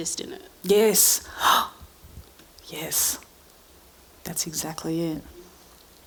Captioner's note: gasping